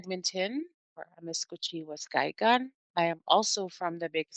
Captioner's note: foreign language